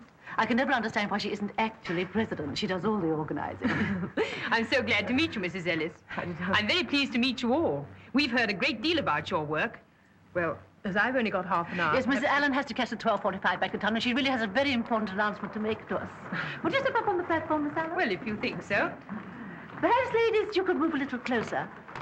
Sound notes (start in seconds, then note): 3.6 chuckles; 16.3 chuckles